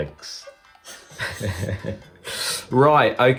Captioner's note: laughs